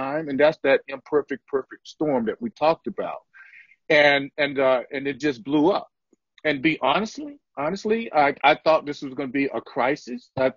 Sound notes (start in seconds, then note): none